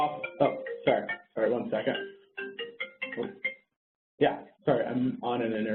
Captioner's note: phone ringing